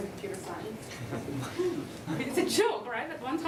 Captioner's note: laughter